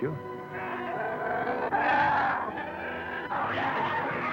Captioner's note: snarling